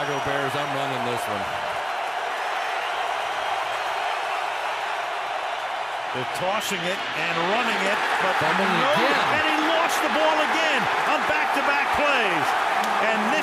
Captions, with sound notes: I'm the Chicago Bears, I'm running this one. [crowd cheering] They're tossing it and running it, but-- Fumble again. And he lost the ball again on back-to-back plays.